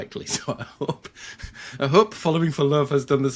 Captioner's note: laughs